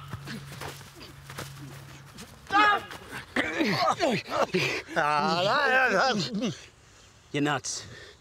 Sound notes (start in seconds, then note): 2.8 men struggle